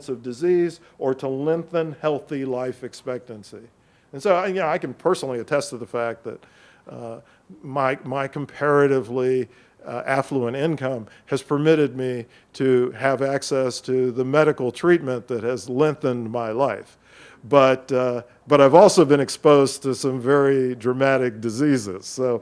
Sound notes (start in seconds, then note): none